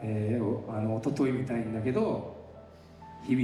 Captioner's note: speaking in foreign language